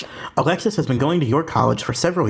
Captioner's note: voiceover